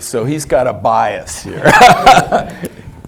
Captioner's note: laugh